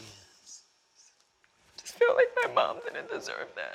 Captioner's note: voice breaking